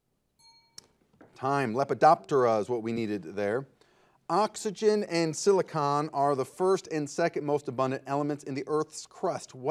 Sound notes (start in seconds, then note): 0.4 bell rings